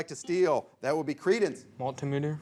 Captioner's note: bell chimes